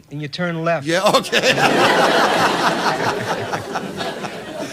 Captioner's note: Laughter from Don & Audience